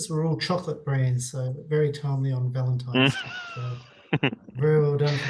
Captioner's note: chuckling